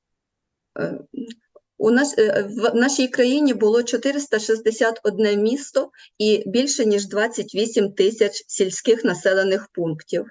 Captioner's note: foreign Language